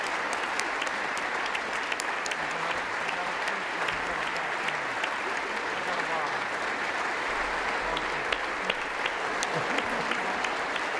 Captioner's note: applause